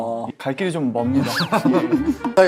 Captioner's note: bursts out in laughter